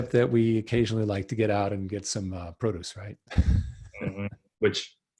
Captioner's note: laughs